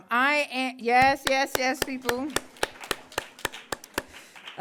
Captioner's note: claps